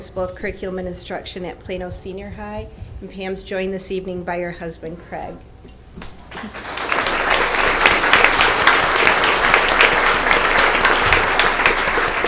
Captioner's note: applause